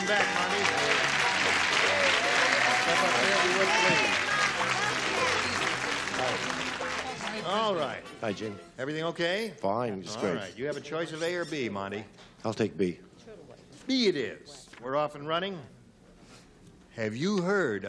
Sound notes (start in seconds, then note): 2.7 cheering